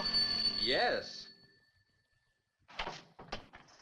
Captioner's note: phone rings